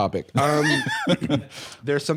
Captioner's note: laughing